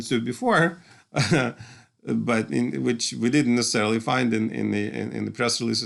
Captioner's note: laughter